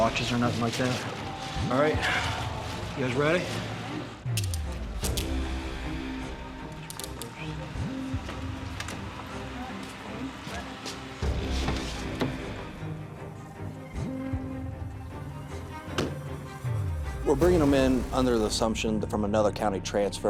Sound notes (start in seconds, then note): 4.3 cuffs clicking